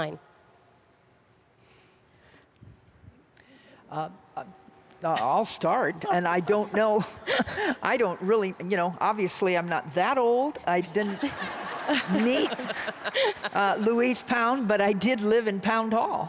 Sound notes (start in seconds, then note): 10.6 audience laughs along